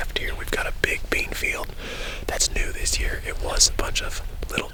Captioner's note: whispering